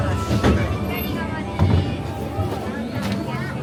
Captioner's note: crowd murmuring